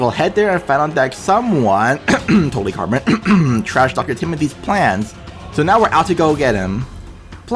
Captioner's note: cough